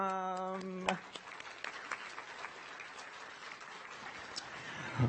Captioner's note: audience applauds